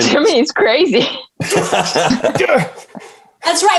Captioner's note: everyone laughing